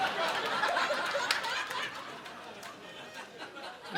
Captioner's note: audience laughing